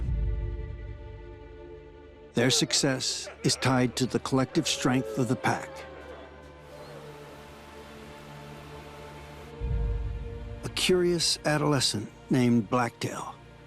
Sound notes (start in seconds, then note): 0.2 light dramatic music; 6.7 water rushing